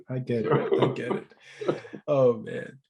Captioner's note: laughs